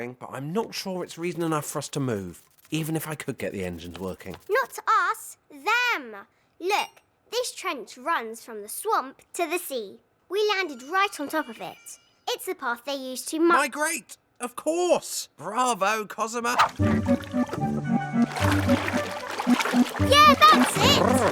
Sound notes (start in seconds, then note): 16.6 paddle board creaking; 18.3 water sloshing